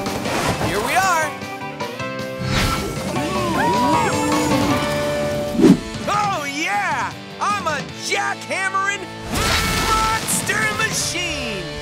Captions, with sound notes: Here we are. [mooing] Oh yeah! I'm a Jack Hammering Monster Machine!